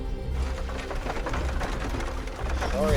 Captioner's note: soft tense music; townsfolk bustling